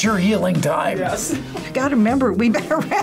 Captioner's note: laughs